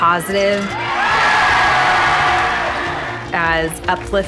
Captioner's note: crowd cheering